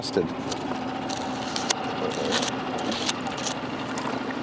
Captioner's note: scrapping; water sloshing